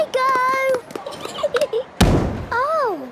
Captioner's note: giggling, thudding